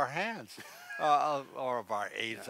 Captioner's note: laughs